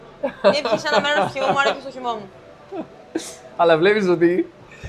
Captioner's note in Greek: γέλια